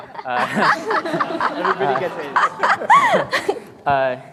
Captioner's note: all laughing